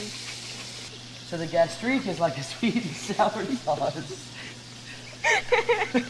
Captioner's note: zester grating; giggling; laughs